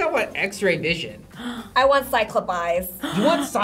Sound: React gasps

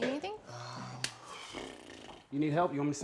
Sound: blows raspberries

